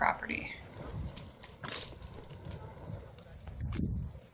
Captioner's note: fire crackling